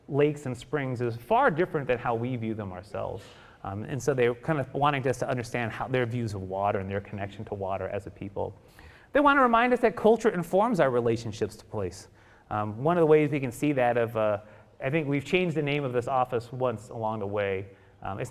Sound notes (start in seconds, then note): none